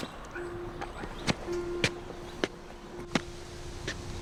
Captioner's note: footsteps; pensive piano music plays